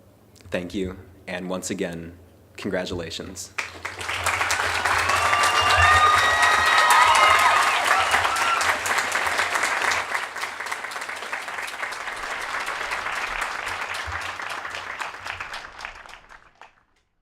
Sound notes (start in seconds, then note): 3.5 applause